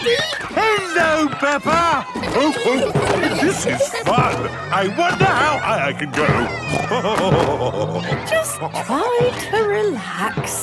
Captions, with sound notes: - Hello, Peppa! (laughing) This is fun. I wonder how high I can go. (snorting and laughing) - Just try to relax.